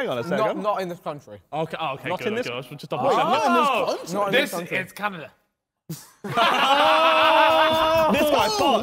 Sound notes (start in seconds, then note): 4.5 men laughing